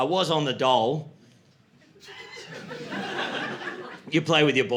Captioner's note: laughter